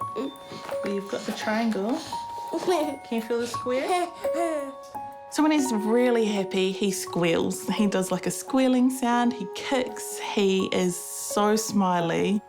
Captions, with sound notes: You've got the triangle. Can you feel the square? (LAUGHS) So when he's really happy, he squeals. He does, like, a squealing sound. He kicks. He is so smiley.